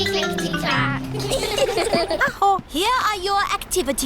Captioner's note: all giggle